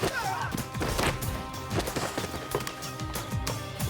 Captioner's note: groaning